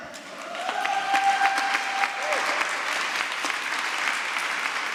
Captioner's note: applause